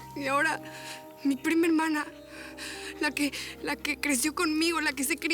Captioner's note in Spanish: sollozos